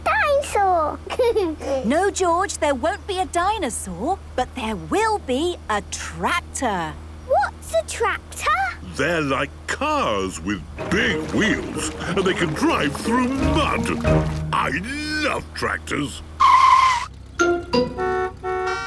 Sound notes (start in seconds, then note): 14.6 tires screeching, horns honking